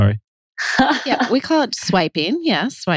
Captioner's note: laughs